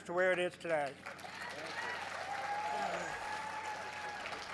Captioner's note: crowd cheers